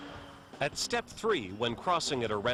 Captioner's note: voiceover